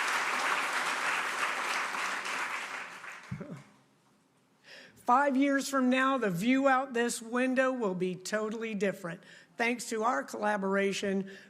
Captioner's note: applause